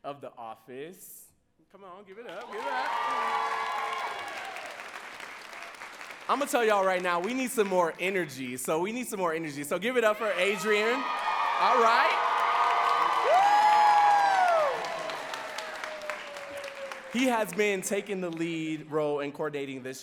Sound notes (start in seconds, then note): 2.2 audience cheering and clapping; 11.1 audience cheering and clapping; 14.9 audience cheering and clapping